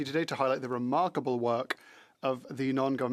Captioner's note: speaking French